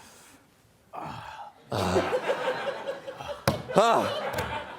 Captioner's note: sighing